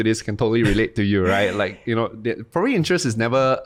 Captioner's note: chuckles